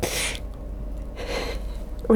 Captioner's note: Naomi softly laughs